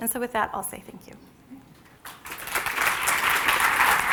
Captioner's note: applause